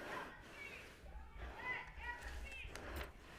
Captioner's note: protestors interjecting